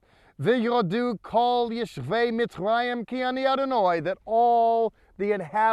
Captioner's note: speaking in Hebrew